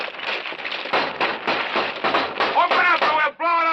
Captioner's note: banging